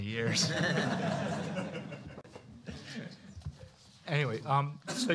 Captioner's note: laughter